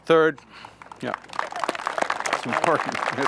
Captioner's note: applause